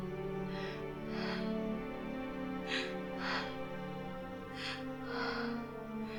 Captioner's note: soft orchestral music; Linda gasping